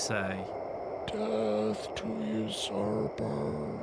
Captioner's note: imitates harsh whisper